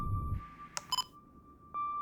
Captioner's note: slow music; recorder beep